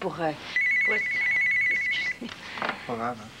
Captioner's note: Le téléphone sonne